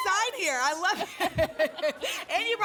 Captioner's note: laughter